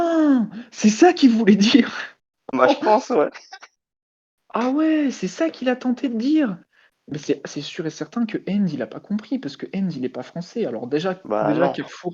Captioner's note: laugh